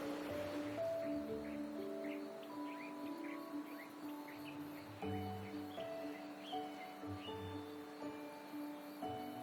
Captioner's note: water rushing; birds chirping